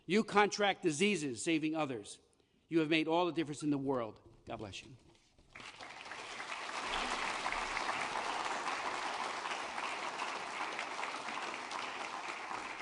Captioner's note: applause